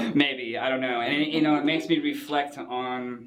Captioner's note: laughs